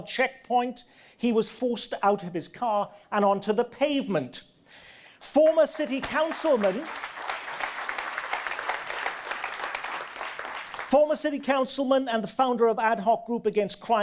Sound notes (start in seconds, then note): 5.7 audience applause